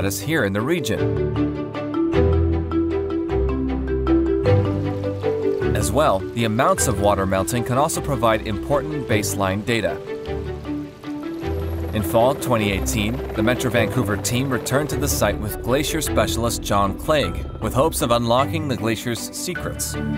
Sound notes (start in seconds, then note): 4.4 water trickling